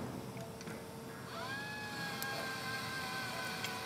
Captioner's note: machine whirring